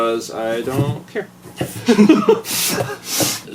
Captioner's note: chuckle